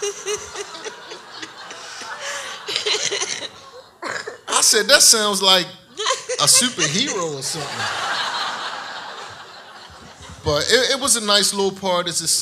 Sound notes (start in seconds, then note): 0.0 audience laughs; 0.0 laughs; 8.2 audience laughs